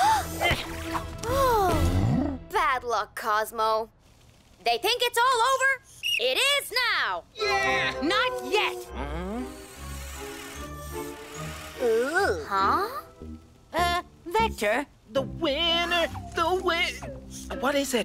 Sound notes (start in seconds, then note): 6.0 blows whistle; 9.7 suspenseful music